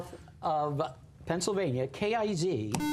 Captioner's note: buzzer